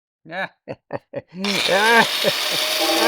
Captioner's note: laughter